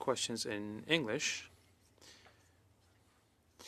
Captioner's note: speaking French